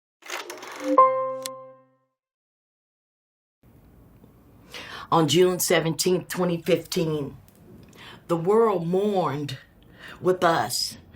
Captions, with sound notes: [film reel rolling] [piano playing] - On June 17th, 2015, the world mourned with us